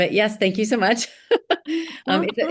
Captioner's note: laughing